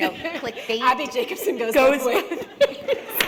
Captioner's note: laughter